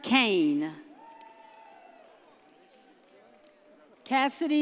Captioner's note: audience cheers